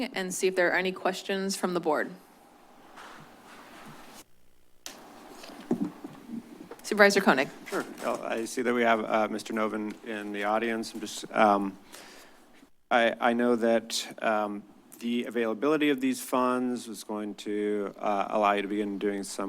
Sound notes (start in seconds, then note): 4.8 pause